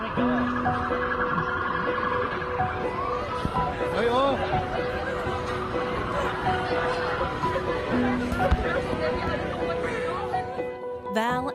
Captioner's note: sirens